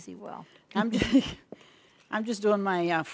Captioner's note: laughs